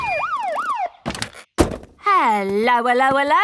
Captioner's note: siren stops